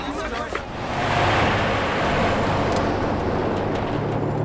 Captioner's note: traffic passing